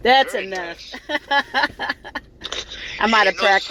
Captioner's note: laughter